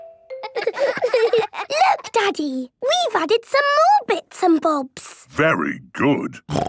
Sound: laughter

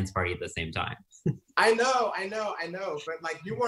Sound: laughing

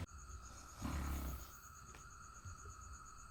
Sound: snores

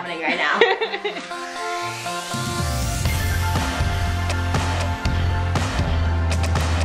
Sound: energetic music; laughs

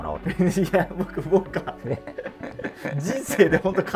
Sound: laughing

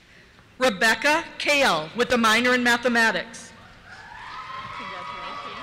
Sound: cheers

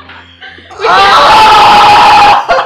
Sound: screaming

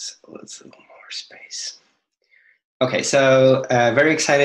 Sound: speaks faintly

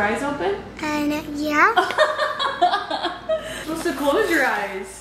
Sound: laughing

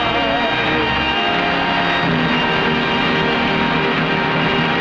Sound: audience clapping

